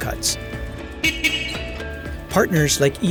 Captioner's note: horn beeps